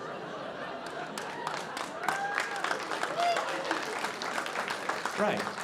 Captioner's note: audience applauding